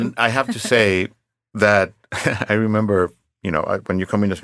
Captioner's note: chuckles